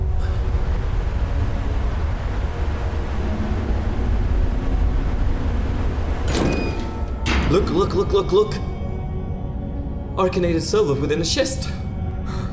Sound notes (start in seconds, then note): 6.2 door opening